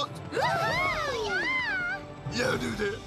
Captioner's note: cheering